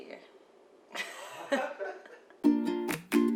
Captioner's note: laughter; bright music